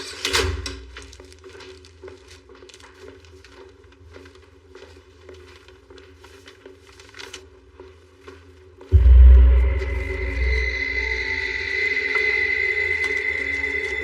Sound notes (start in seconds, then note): 0.8 footsteps echchoing; 8.9 eerie music